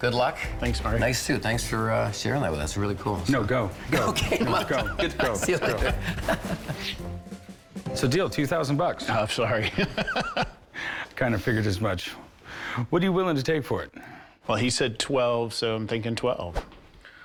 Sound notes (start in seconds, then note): 3.8 laughing; 3.9 both laughing; 9.6 laughs